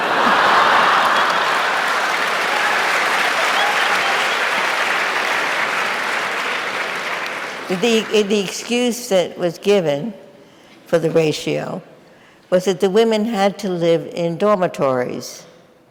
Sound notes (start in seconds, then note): 0.0 audience laughing; 2.5 audience applauding